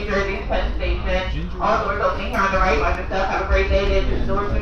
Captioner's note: female announcement